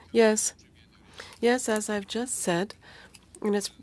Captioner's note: speaking French